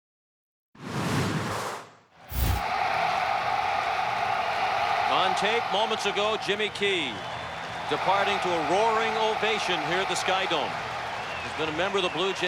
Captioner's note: applause; cheering and Applause